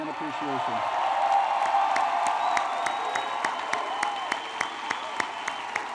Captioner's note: applause